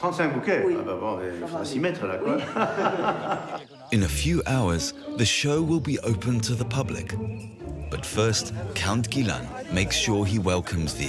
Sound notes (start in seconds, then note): 0.0 speaking in foreign language; 2.3 both laughing